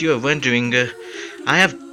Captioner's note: inhales